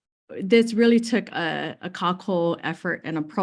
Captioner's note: speaks in foreign language